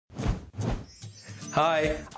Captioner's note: swooshing